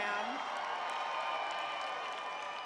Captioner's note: crowd cheering